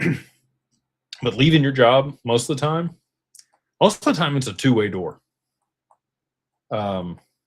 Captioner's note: clears throat